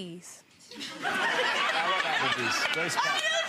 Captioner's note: audience laughs